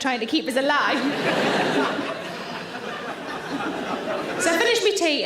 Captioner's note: audience laughs